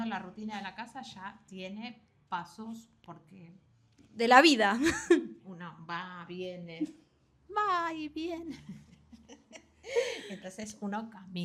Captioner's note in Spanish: risas